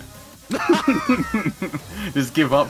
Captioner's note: laughter